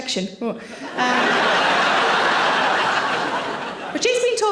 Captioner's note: audience laughing